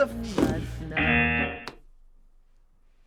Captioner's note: buzzer